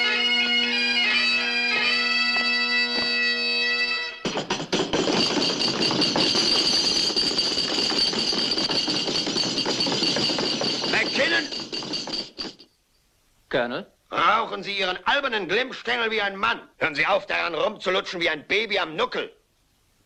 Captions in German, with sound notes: - [Dudelsäcke verstummen] - [auf den Tisch schlagen] MacKinnon! Colonel? Um Gottes willen, ich rauche dieses verdammte Ding wie ein Mann! Hör auf, daran zu ziehen wie eine verdammte Anfängerin!